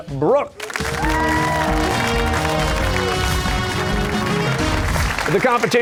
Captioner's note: cheers and applause